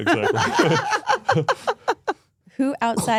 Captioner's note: speaker laughs